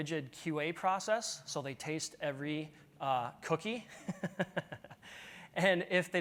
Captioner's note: laughs